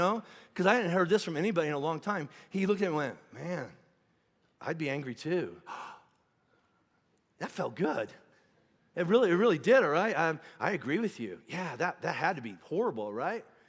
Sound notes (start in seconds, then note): 5.6 gasping